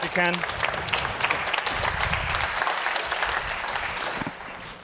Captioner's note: audience applauding